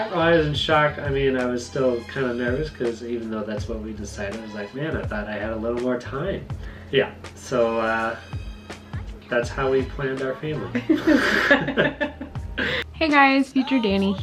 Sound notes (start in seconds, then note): 10.7 laughing